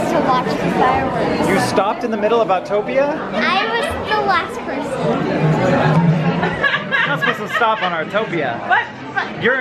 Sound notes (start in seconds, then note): 5.9 laughing